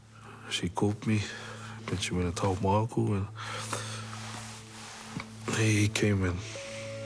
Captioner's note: inhales